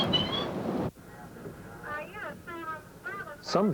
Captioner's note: radio communications